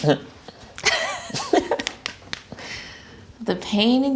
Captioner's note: both laughing